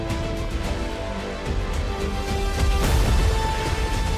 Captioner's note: animals galloping